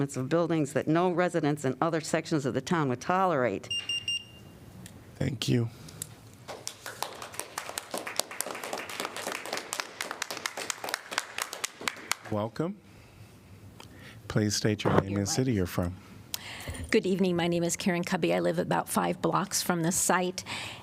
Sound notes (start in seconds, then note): 6.5 applause